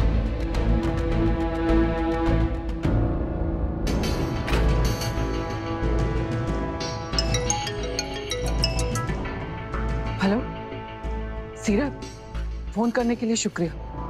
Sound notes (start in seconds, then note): 0.2 suspenseful music playing; 7.2 phone ringing